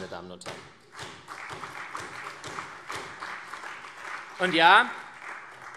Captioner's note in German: Beifall SPD, CDU, AfD und Freie Demokraten